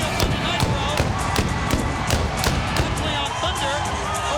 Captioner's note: pyro exploding